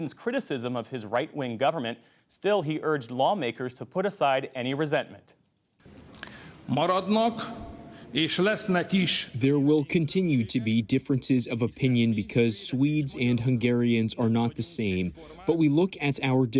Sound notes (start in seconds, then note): 9.9 through translator